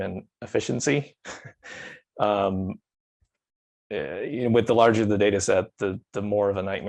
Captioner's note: chuckles